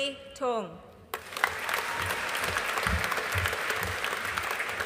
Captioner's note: audience applauding